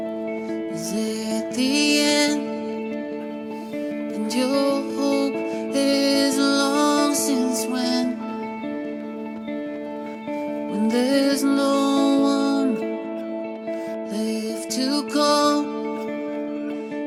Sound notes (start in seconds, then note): none